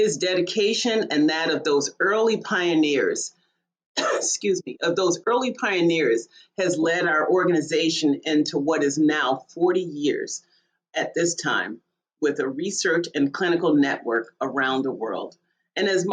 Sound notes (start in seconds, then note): 4.0 coughs